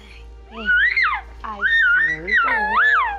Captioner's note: screaming